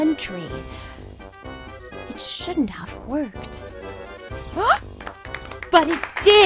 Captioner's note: applause